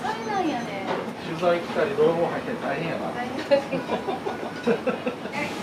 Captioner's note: laughter